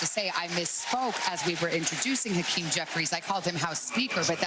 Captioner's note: cheers and applause